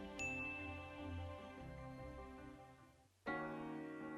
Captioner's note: bell dinging; gentle piano music